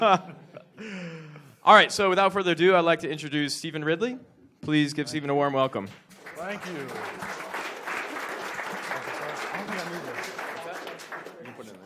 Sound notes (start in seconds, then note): 5.8 applause